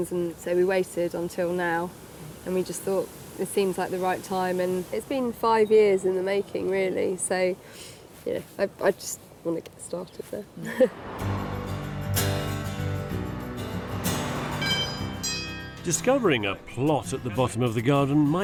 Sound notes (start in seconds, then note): 11.2 gentle music; 14.6 doorbell chimes